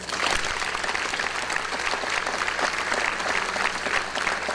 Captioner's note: audience applause